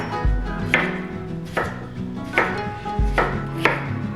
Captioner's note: haha